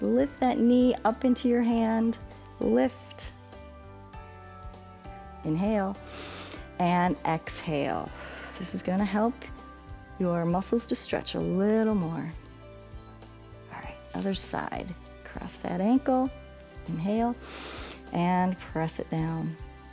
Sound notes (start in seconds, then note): 6.0 exhales; 6.0 inhales